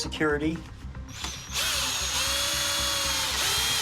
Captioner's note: drill whirring